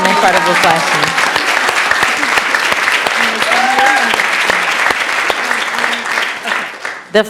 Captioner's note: applause